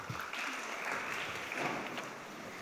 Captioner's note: applause